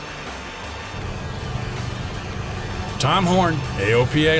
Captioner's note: plane engine roaring